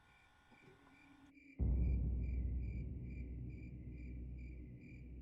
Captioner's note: crickets chirping